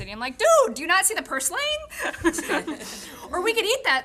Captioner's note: laughing